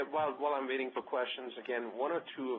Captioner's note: voiceover